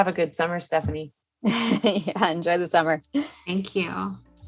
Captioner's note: laughs